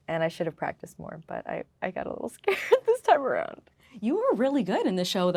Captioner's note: laughing